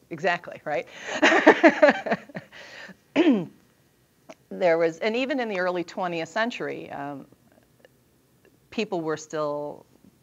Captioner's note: laughter